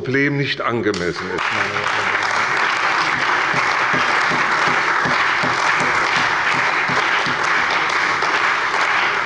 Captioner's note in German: Beifall bei der CDU und dem BÜNDNIS 90/DIE GRÜNEN